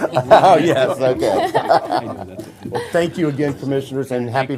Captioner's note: laughter